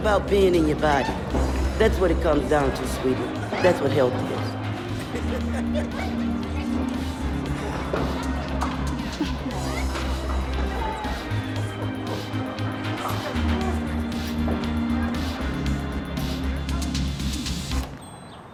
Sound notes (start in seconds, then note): 6.5 Susan laughing; 9.5 upbeat music